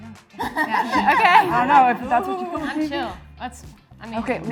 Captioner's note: all murmuring